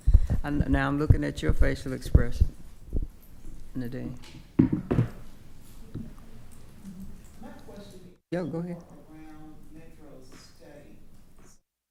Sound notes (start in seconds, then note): 4.1 object clattering; 11.1 audio cuts off